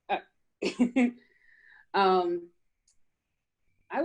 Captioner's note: chuckles